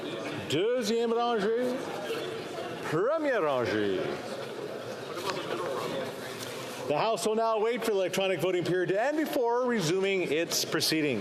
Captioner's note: speaking French